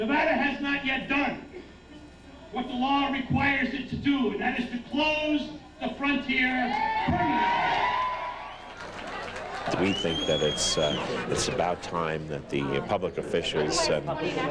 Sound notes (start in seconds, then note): 8.5 applause